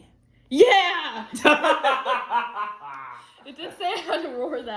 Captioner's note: laughter